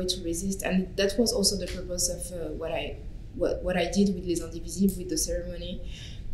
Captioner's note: french